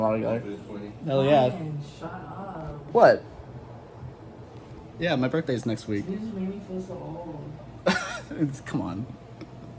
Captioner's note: laughs